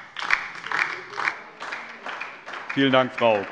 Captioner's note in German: Beifall DIE LINKE